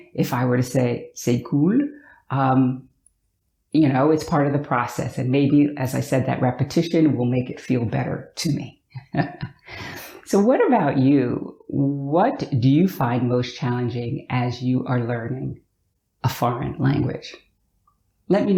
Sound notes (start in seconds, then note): 8.9 chuckles